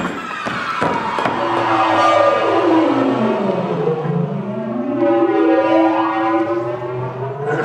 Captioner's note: chimes; warping sound effects